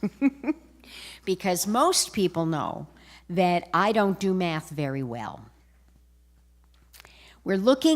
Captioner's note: laughter